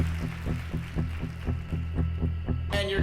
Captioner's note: cheering and applause